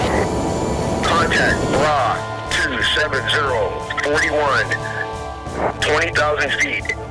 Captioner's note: voiceover; voiceover